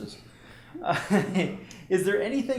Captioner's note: laughter